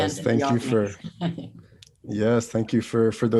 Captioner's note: Joy chuckles